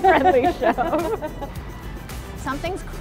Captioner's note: laughing